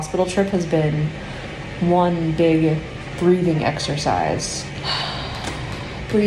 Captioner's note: exhales